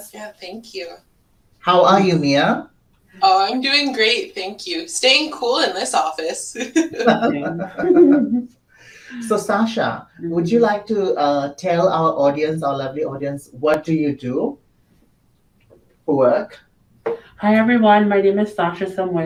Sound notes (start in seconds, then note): 6.3 laughs; 6.6 group laughs